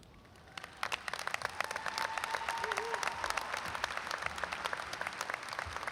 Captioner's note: audience applauds and cheers